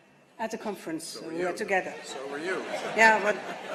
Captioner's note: laughter